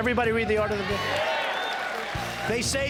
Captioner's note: cheers and applause